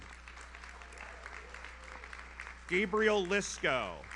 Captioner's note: audience applauds; audience cheers